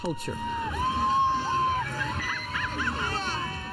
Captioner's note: people cheering and laughing